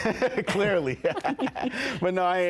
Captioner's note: chuckles; laughs